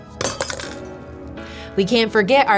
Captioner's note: glass shatters